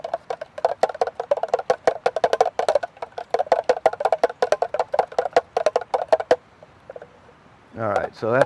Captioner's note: spoon clattering